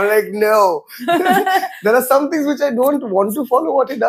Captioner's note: laughs